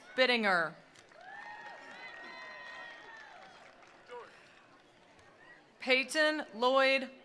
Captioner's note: attendees applauding; attendees cheering